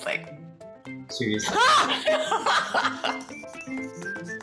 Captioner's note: laugh